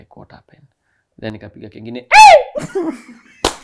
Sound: screams

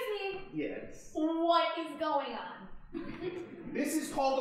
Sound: audience chuckling

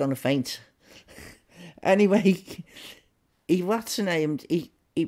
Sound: chuckling

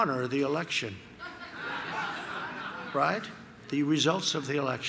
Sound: laughter

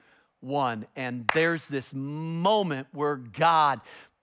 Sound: clapping hands

